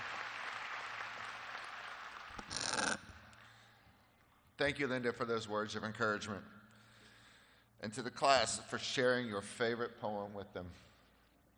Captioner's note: applause